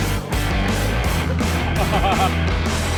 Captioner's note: laughing